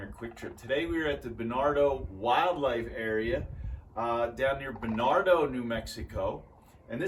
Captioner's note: sandhill cranes calling in background